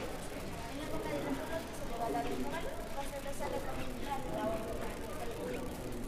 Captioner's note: visitors chattering in Spanish